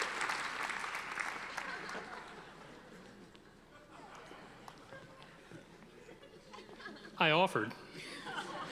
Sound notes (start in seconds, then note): 1.5 audience laughing